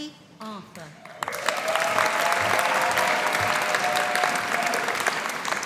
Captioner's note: audience applauding